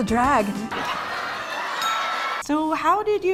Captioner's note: people laugh